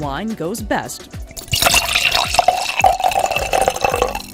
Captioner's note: wine trickles